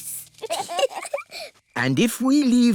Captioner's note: both giggle